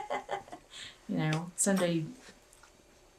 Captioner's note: laughter